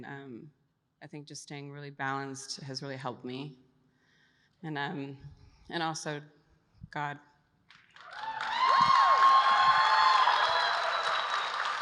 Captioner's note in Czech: Potlesk